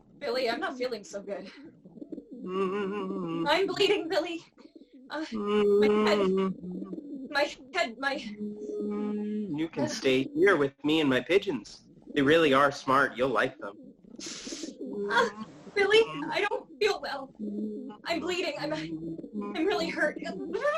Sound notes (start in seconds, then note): 1.6 the sound of humming a song; 8.2 the sound of humming a song; 15.8 crying